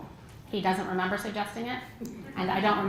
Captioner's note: laugh